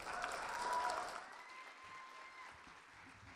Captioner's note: audience cheers and applause